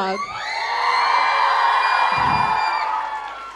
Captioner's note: audience cheers